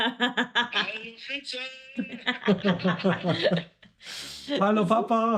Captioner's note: laughing; speaking in foreign language